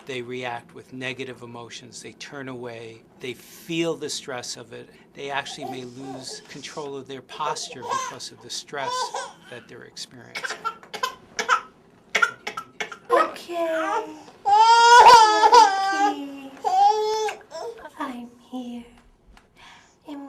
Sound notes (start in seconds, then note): 10.8 baby crying; 14.4 baby crying; 19.1 baby crying